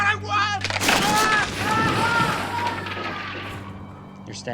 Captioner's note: screams